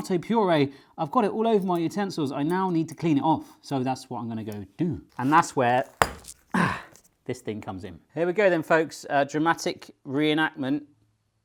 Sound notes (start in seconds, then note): 5.6 thudding